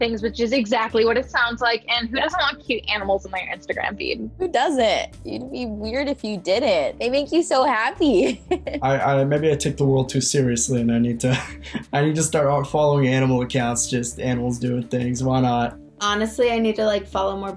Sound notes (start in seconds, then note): 8.1 laughs